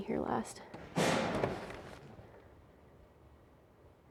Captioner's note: locker door bangs